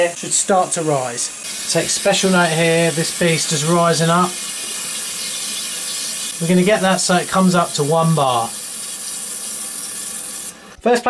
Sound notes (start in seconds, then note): 4.3 pipes hissing